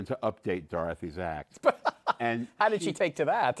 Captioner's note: laughs